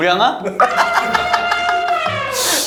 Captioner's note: ah ha ha ha ha